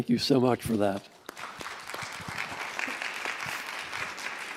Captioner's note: applause